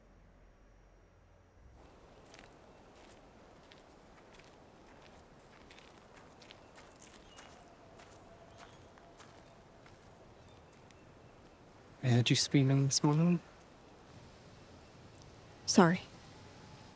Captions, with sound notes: (gravel crunching) (birds chirping) - I heard you screaming this morning. - Sorry.